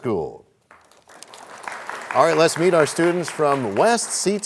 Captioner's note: applause